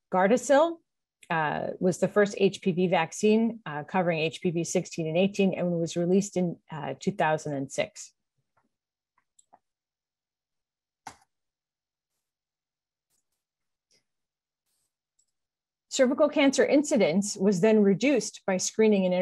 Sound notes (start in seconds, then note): 11.0 mouse clicks